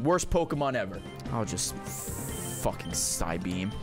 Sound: none

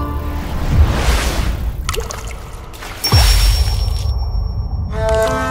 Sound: sound of splashing water

